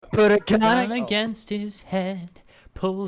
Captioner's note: singsongy Space